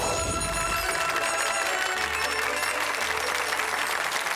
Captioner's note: audience applauds